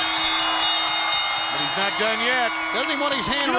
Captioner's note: bell ringing